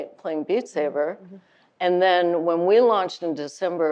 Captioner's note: none